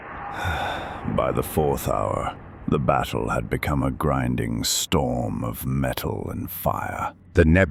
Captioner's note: sighs